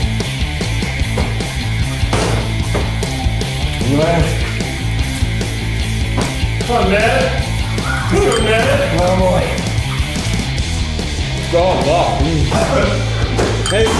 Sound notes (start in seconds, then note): 3.9 groans